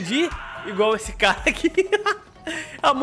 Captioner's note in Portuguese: risos